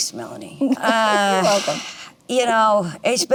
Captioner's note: laughs